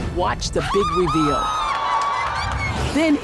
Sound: screams

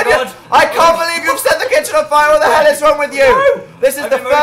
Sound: yelling

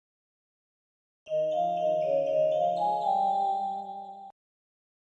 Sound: soft chimes

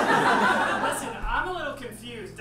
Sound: audience laughs

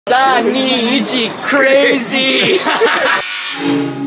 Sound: speaking Japanese

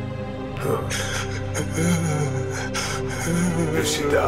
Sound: crying

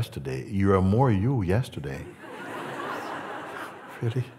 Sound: laughter

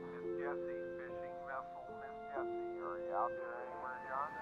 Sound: voices on radio

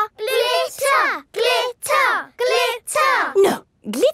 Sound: chanting

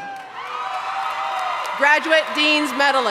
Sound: audience cheering

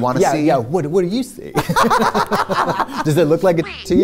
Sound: laughter

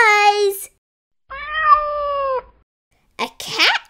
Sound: meow

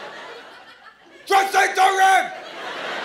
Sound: caveman voice

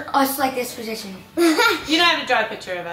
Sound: laughing

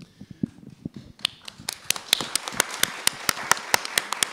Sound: applause

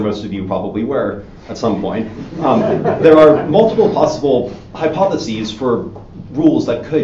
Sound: audience Laughing

